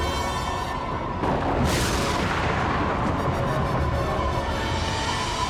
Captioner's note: thunder claps